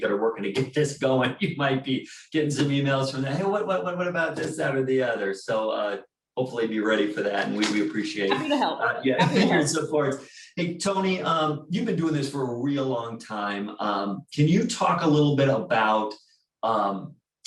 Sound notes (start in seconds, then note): 0.0 chuckling